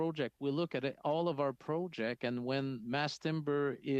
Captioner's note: speaking French